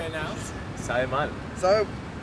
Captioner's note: in spanish